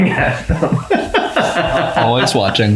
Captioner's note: laughs